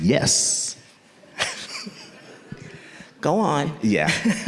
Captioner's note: laughs